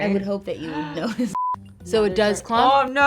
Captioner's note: beep